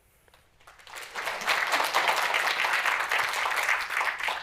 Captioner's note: applause